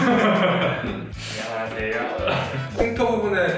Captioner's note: hehehe